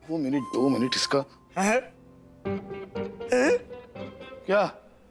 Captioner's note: chuckling